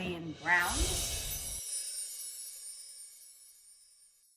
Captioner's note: chimes ring